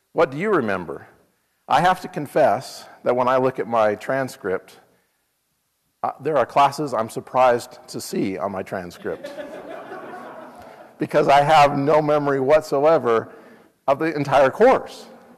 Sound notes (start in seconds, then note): 9.0 laugh